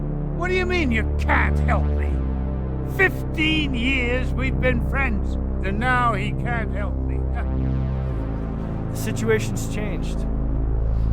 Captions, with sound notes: - What do you mean you can't help me? 15 years we've been friends, and now he can't help me. (Wally scoffs) - The situation's changed.